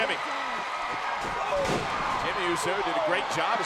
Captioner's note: crowd cheers